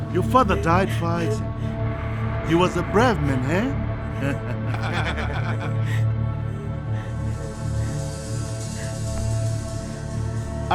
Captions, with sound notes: - Your father died fighting. He was a brave man, eh? (laughing) (ominous music)